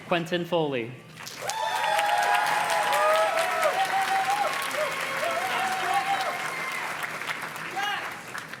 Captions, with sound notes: Quentin Foley. (audience cheers and claps)